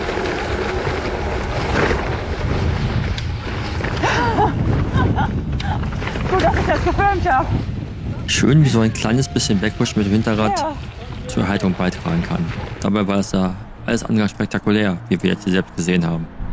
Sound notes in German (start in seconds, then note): 4.9 lacht